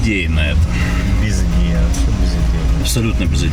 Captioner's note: sighs